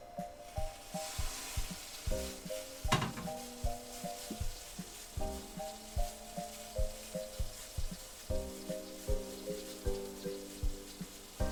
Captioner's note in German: Zischen